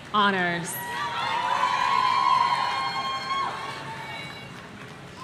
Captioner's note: audience cheering